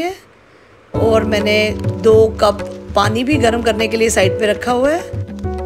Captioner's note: Water boiling on the side